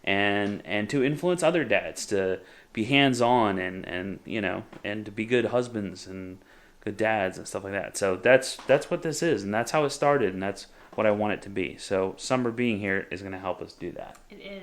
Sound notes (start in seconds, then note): none